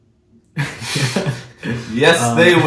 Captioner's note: laughs